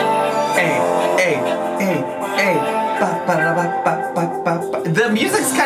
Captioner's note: upbeat music; making music sound effects